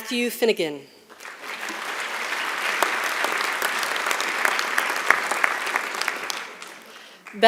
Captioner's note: applause